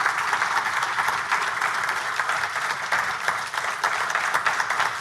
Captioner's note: audience applauding